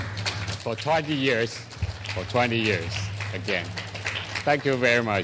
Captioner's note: clapping